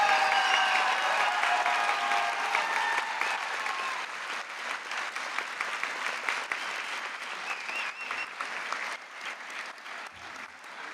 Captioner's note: applause